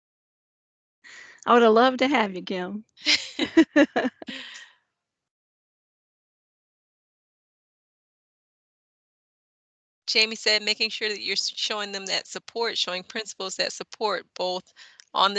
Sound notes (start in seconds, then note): 3.0 laughs